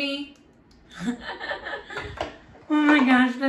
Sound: laughs

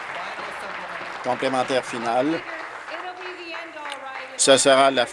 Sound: applause

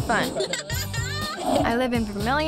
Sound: laughing

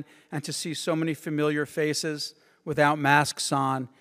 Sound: none

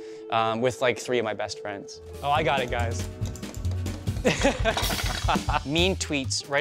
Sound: laughs

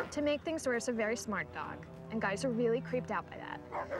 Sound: none

